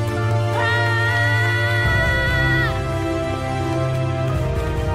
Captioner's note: dramatic music continues; Dark Oren screams